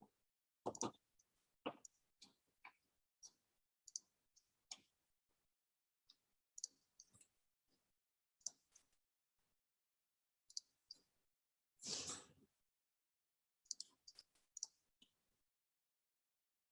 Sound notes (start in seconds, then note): 4.1 mouse clicking